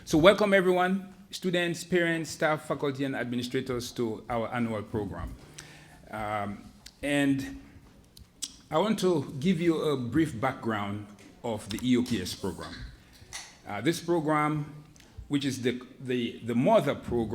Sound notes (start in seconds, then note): none